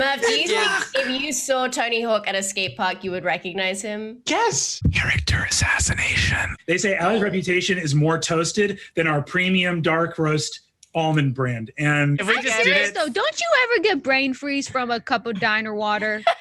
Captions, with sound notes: Murph, do you think if you saw Tony Hawk at a skatepark, you would recognise him? (indignant) Yes! (whispering uncomfortably close to the microphone) Character assassination. They say 'Ally's reputation is more toasted than our premium dark roast almond brand.' I'm serious though, don't you ever get brain freeze from a cup of diner water?